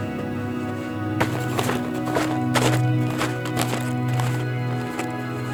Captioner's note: snowy footsteps crunching